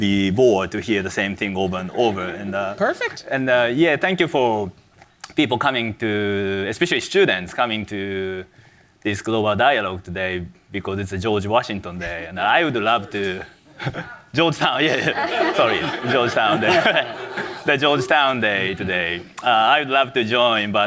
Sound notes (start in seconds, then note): 14.6 audience laughs; 14.6 laughs